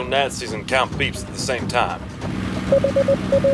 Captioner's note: morse code